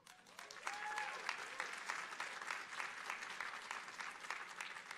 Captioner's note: audience applauding